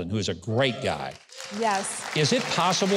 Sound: crowd cheering

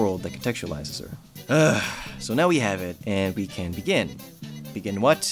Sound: groans

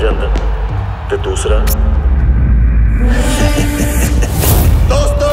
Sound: laughs

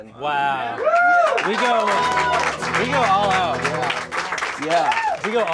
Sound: cheering, clapping

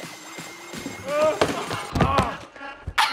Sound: moaning

